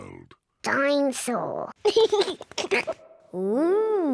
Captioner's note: giggles